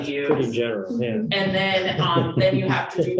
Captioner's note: laughter